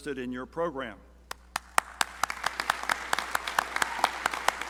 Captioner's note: crowd applauding